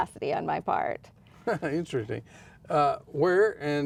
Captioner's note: laughs